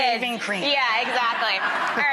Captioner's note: audience laughing